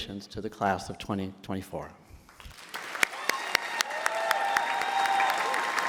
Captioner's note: crowd cheering